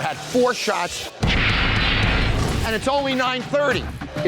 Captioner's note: shots banging